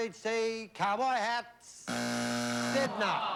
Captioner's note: buzzer